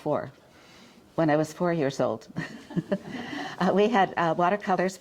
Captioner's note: chuckles